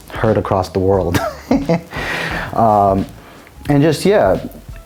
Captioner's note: chuckling